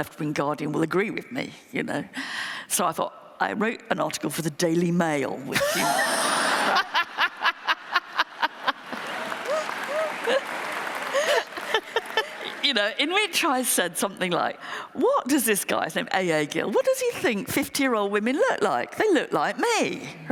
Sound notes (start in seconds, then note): 8.5 laughter; 8.6 applause